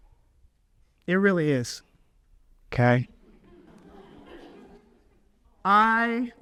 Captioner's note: audience laughs